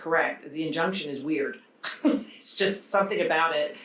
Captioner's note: chuckles